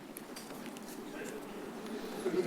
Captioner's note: paper rustles